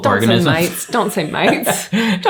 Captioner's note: chuckles